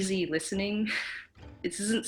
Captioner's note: giggles